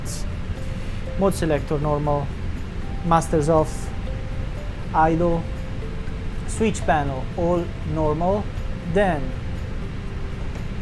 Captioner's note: throttle